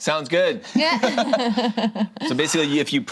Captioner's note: group laughs